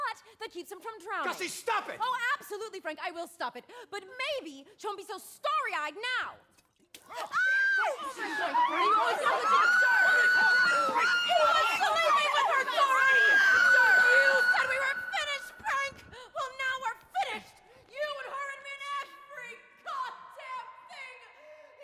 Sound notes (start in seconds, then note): 7.6 meg screaming; 7.8 frantic chatter